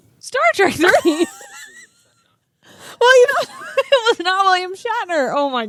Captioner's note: both laugh